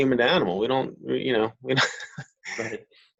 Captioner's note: chuckles